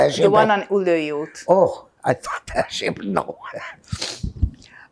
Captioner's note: laughing